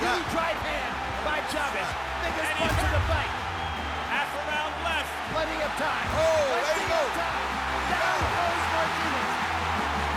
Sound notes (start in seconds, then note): 5.7 cheering